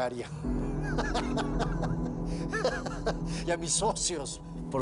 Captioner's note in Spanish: Risas